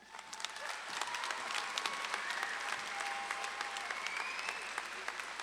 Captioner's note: audience claps and cheers